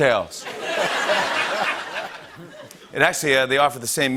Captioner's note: laughter